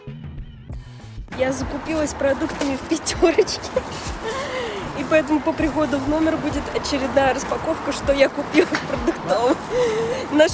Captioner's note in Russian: смех